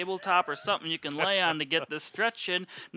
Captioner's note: laughing